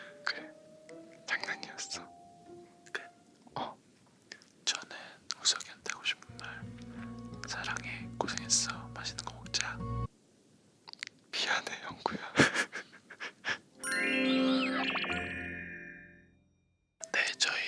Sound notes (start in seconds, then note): 12.3 laughs